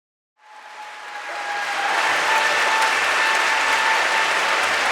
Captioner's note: audience applauding